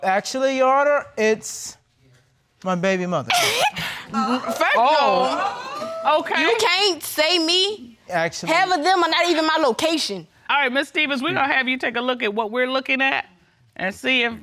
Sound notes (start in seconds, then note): 3.2 chuckles nervously